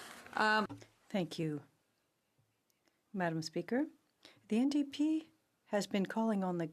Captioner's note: speaking French